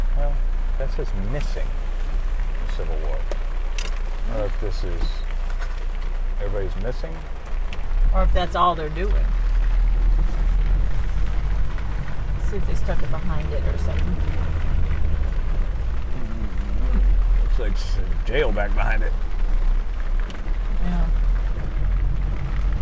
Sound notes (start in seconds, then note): 14.7 rain splattering; 19.8 rain splattering